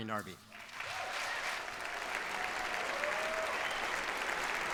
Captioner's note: applause